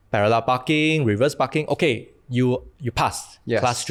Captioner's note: none